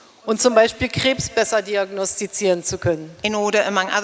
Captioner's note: speaking in German